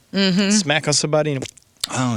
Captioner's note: mimics explosion